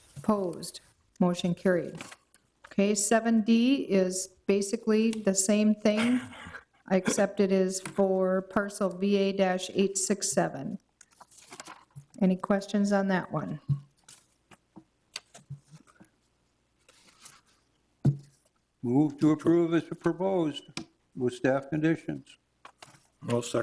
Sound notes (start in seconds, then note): 6.0 councilor chuckling